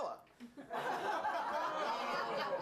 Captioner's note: laughter